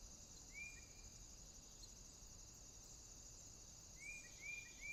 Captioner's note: birds singing